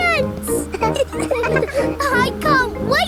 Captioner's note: all laughing